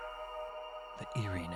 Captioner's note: EAS Tone